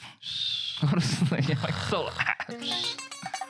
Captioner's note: snoring